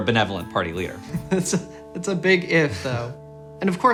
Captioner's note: chuckles